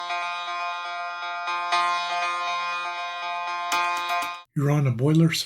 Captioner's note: alarm